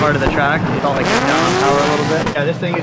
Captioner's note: engine roars